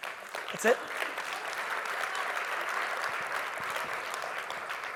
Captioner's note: audience applauds